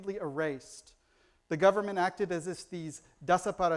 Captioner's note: foreign language